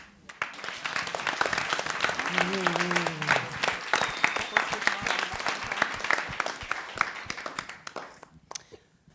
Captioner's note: applause